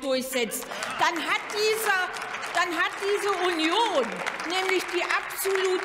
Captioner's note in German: Beifall beim BÜNDNIS 90/DIE GRÜNEN, bei der FDP und der LINKEN